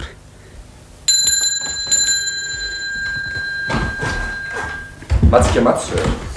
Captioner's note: bell